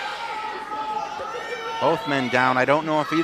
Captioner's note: audience shouts